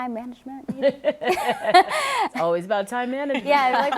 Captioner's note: laughter